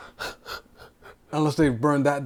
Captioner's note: gasping